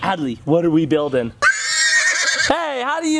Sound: horse whinnies

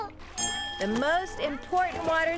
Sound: dings

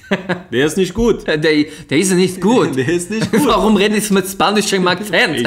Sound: spanish accent

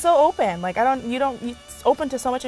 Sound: stuttering

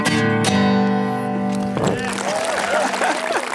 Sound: applause

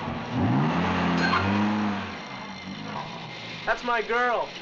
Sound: car engine running; bell ringing

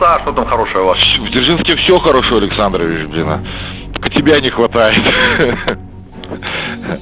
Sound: laughs

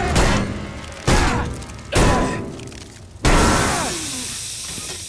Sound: grunting

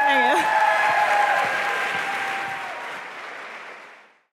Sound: applause and cheering

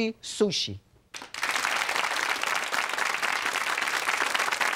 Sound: audience claps

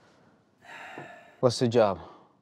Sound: Dawit sighs

